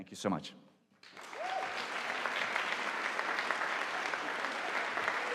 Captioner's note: audience applauding